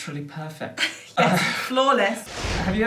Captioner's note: laughter